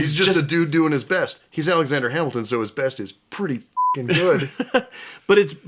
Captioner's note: beeping